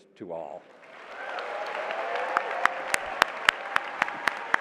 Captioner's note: applause